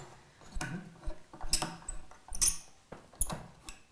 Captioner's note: cracking, squeaking